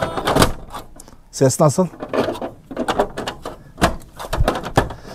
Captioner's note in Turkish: Kilit açılma sesi